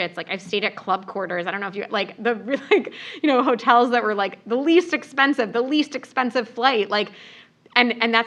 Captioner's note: laugh